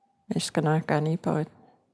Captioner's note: In Cree, English to follow